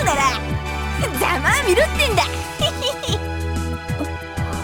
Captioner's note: snicker